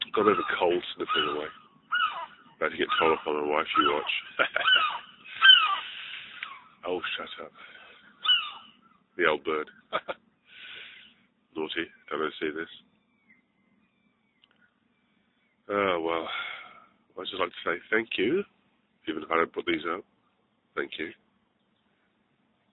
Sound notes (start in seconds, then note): 6.2 bird Call